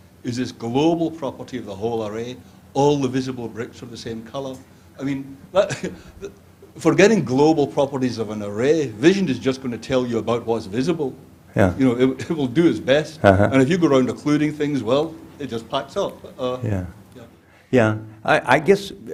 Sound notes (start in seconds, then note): 5.6 chuckles